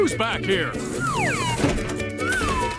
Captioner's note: whistle